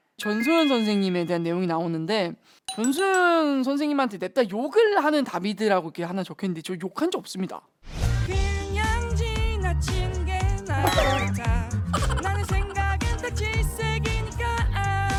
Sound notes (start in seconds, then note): 11.9 bursts out laughing; 11.9 starts laughing abruptly